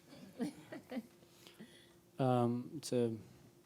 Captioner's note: laughing